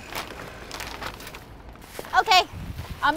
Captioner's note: bag crinkling